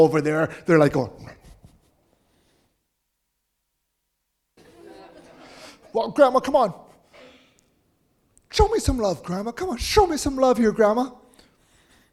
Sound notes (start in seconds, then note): 4.6 audience laughing